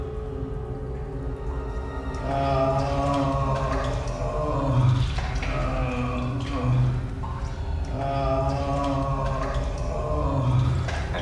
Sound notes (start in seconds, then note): 2.8 Brian groaning; 2.8 soft haunting music